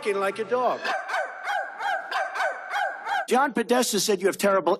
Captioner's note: barking